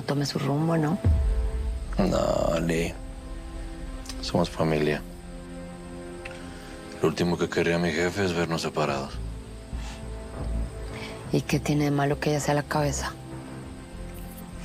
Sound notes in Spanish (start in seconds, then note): none